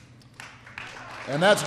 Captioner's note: applause